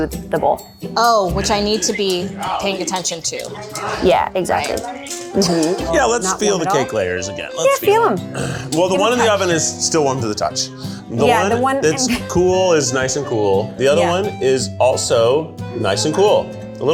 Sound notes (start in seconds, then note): 10.6 laughs